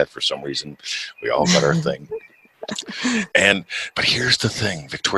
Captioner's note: laughs